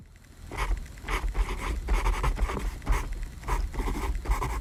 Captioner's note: pencil scratching